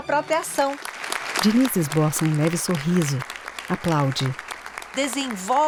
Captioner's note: claps